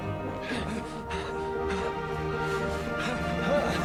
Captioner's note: gasp